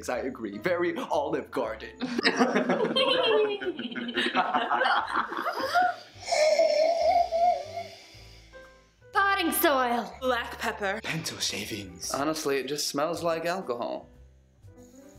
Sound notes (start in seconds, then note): 3.6 laughter; 5.7 sniffing